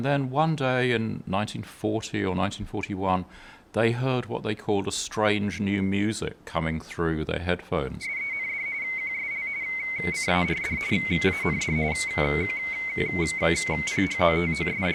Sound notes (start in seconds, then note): 8.0 radio trills shrilly